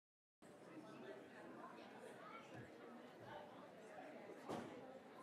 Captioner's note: crowd chattering continues